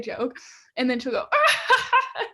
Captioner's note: laughs